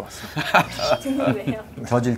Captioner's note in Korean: 웃음